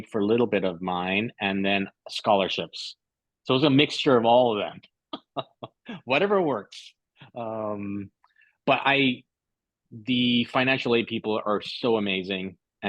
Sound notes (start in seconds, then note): 5.1 laughter